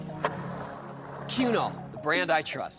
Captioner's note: skateboard wheels roaring